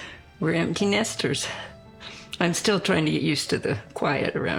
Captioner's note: sniffling